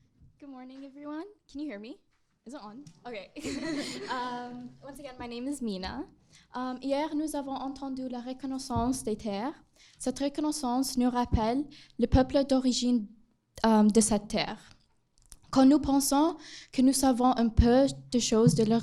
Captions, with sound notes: - Good morning everyone, can you hear me? Is it on? OK. (laughing) Once again, my name is Mina. (speaks in foreign language)